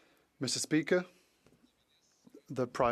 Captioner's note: speaking French